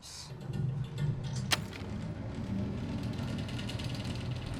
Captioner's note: loud rumbling